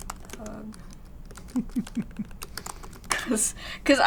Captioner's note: laughs